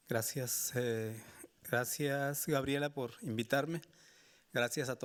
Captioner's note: speaking Spanish